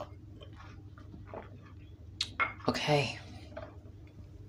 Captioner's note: drinking